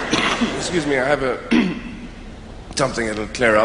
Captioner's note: coughs